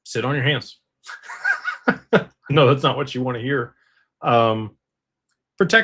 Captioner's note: laughter